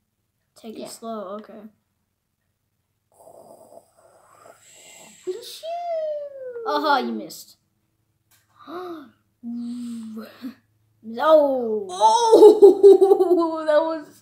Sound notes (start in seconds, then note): 8.5 le gasp